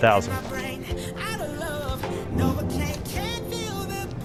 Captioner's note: shoe scraping dirt